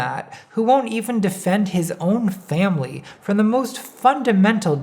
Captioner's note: none